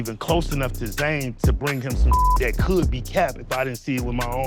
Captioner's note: beep